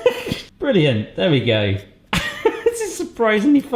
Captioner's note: laughs